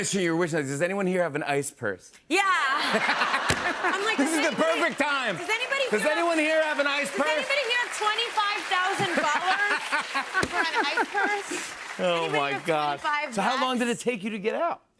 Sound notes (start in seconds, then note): 2.7 laughter